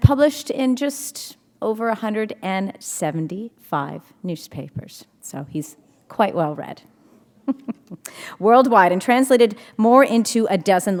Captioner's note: chuckle